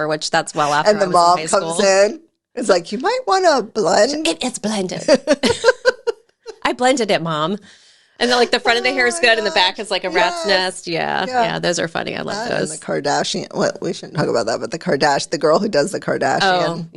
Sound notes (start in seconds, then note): 5.0 laughing